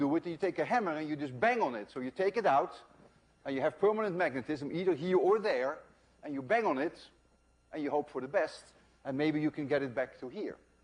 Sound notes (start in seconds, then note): none